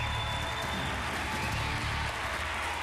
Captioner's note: applause